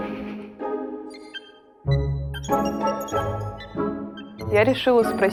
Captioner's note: calm music; computer beeping noises